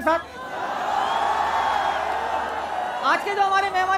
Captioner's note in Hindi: चियरिंग